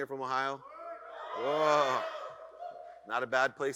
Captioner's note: audience cheers